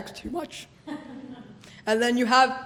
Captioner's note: laughter